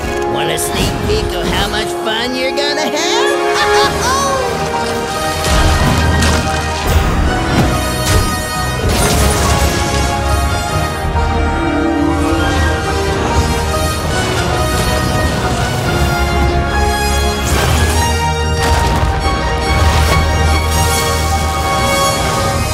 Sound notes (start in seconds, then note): 3.1 laughs; 4.7 epic music playing; 20.3 music swells